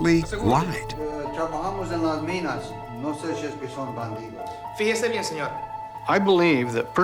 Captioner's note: speaking spanish